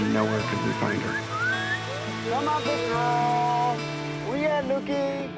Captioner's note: whistling